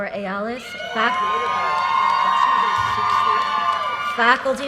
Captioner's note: audience cheers and applause